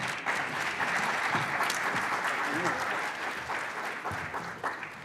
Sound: audience applauding

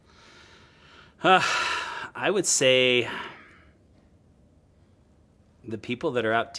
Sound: a deep sigh

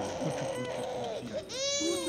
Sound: baby crying; cooing

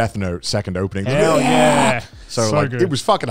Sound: screams

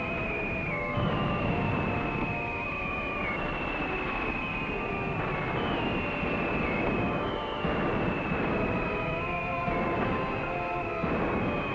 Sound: incoming artillery whistling and shells exploding

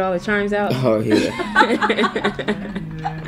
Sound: laughter

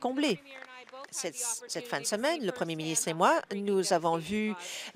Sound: applause

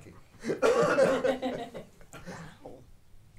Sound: audience laughing

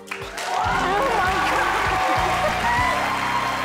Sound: crowd cheering

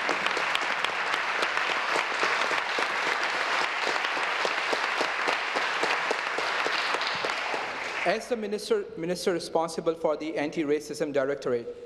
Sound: applause

